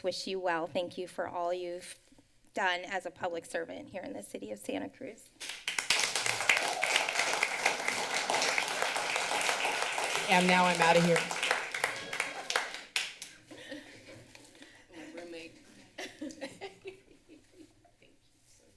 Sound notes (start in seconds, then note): 5.4 applause; 17.3 laughs